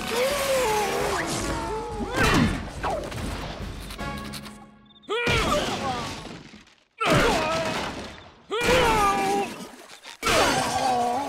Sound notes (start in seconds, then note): 1.6 thudding; 4.7 thudding, groaning